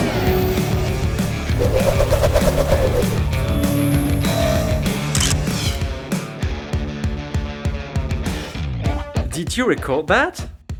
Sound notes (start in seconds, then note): 1.3 hoverboard whirring